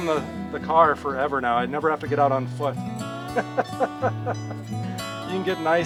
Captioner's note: laughter